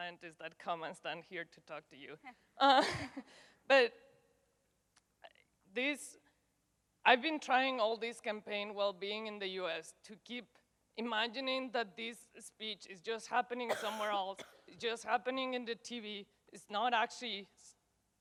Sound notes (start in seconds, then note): 2.4 laughs